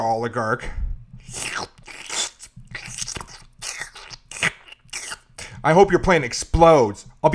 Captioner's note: sound of lube being applied